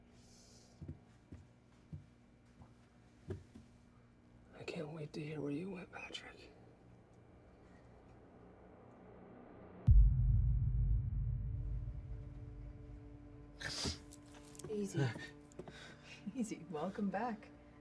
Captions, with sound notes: - I can't wait to hear where you went, Patrick. (unsettling music) (Patrick gasps) - Easy, easy. Welcome back.